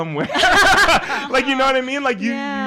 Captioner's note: all laughing